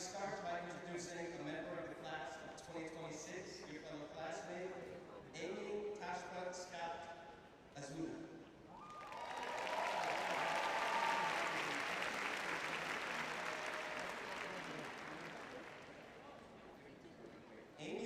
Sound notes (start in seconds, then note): 8.7 cheering; 14.2 applause